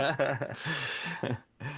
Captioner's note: laughing